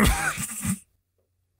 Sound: wheeze

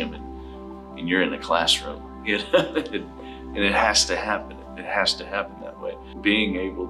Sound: laughs

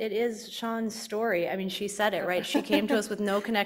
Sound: panel chuckling

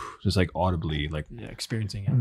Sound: exhales

